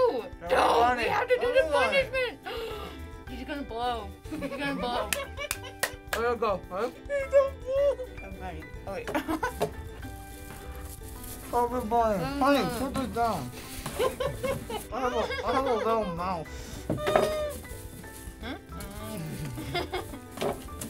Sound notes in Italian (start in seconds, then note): 5.1 ridacchia; 14.0 ridacchia; 18.4 gemito acuto; 19.0 ridacchia